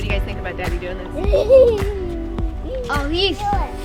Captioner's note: laughing happily